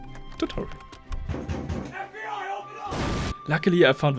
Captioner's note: Bob from the FBI knocking on door